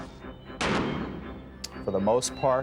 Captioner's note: gunfire popping